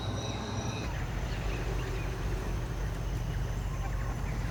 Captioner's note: a chorus of waterfowl